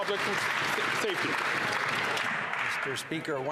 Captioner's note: some Applause